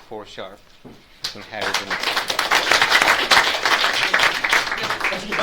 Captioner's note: audience claps